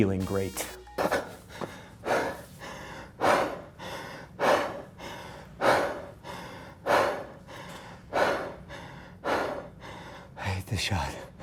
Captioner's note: laboured breathing